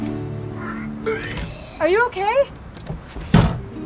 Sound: vomiting sounds

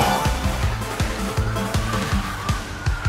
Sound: jump sound

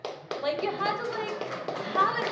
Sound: applause

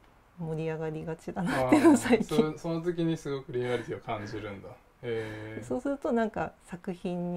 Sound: laugh

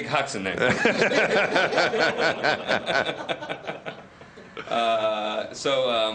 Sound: laughter

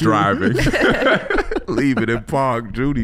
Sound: all laughing

